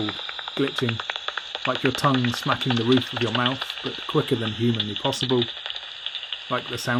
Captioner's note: clicking noises continue